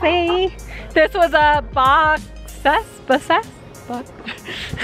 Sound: giggles

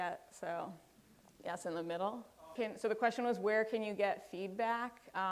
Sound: off microphone

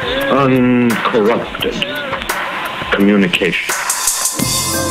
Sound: male Voice

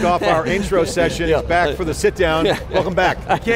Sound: laughs

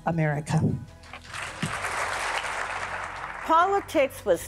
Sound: audience applauding

